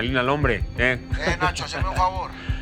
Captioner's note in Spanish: Risas